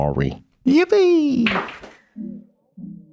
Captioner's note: Jesuses clattering